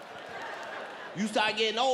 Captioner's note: audience laughs